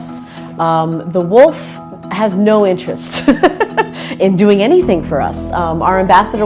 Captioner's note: laughs